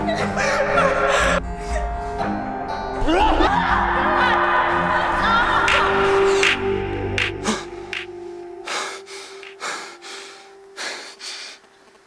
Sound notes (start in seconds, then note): 3.0 shouting; 8.6 panting